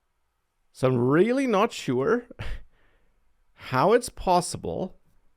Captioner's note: laughs